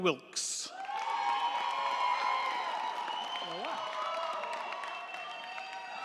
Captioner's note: crowd cheering; crowd clapping